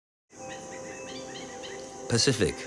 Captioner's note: birds squawking